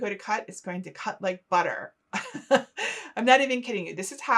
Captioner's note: laughing